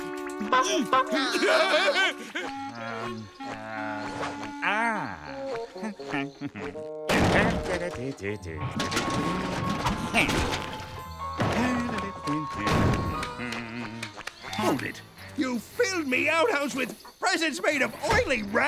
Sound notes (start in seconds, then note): 0.3 honking, laughing; 5.5 humming; 12.4 humming